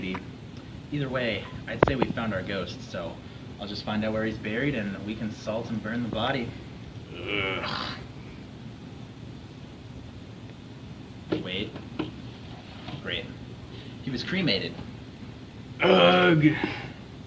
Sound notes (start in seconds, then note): 7.0 groans; 15.8 groans louder